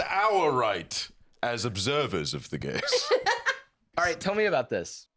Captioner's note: laughs